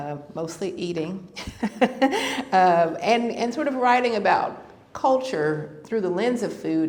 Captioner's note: laughter